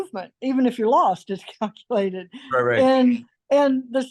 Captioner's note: laughs